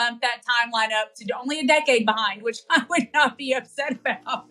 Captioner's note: laugh